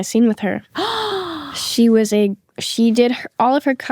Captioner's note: gasping